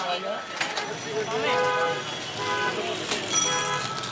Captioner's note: car horns honk